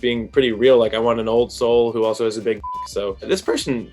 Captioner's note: beep